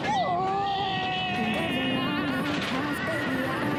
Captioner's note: screaming